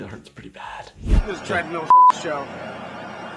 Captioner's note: beep